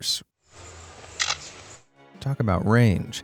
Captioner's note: mimics camera shutter